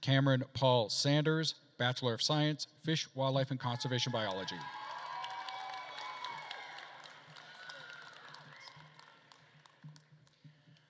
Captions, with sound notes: Cameron Paul Sanders, bachelor of science, fish, wildlife and conservation biology. (attendees cheering and applauding)